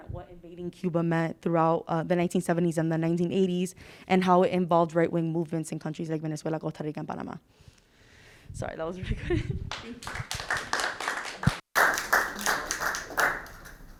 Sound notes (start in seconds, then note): 9.7 audience clapping